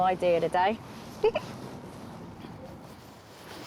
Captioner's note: giggles